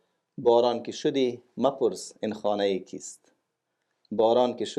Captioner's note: speaking in Dari